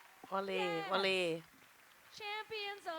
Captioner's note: cheers and applause